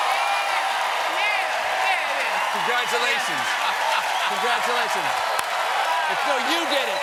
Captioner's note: cheers and applause